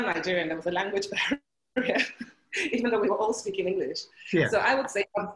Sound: laughing

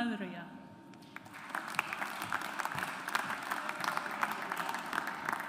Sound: audience applauds

